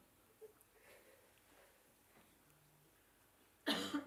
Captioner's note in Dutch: stilte